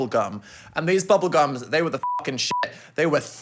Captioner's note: beeps